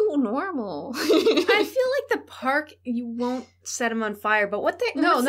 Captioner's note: laughter